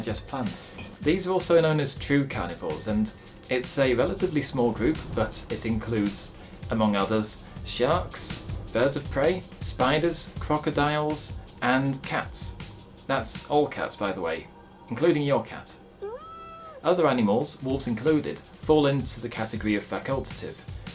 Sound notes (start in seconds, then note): 16.0 cat go meow